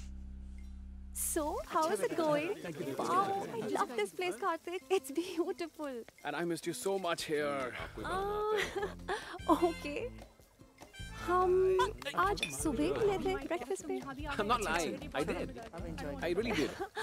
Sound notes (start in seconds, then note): 7.7 Ananya chuckles